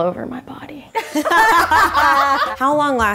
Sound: all laughing

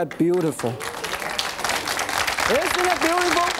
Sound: audience claps

